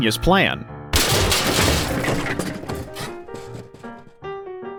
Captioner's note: crash